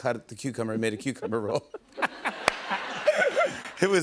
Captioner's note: laughter